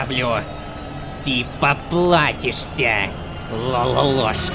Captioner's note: screamer